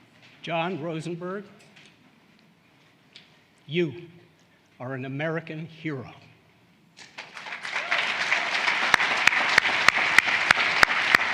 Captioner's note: applause